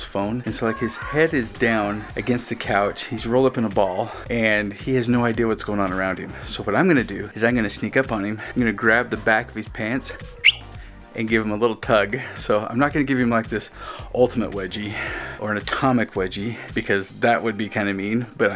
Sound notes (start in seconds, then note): 10.4 whistles